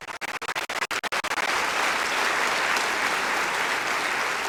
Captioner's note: applause